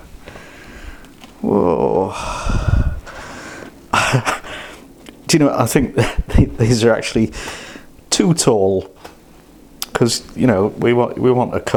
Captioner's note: laughs